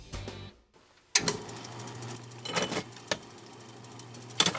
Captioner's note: switch clicks on, belt turns